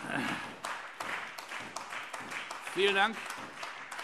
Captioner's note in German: Beifall Freie Demokraten